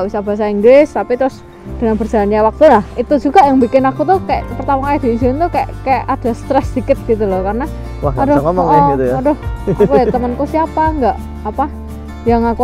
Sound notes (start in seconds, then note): 9.6 chuckles